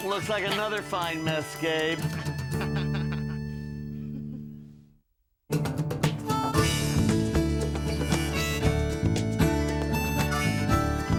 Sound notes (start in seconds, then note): 2.1 laughing; 5.6 closing theme playing